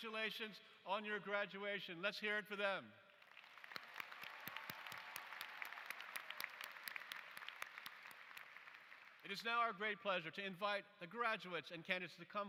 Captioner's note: applause